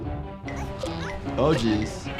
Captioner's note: dramatic music; Giggles grunting